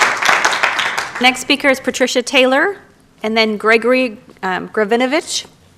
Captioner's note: applause